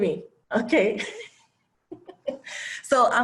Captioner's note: laugh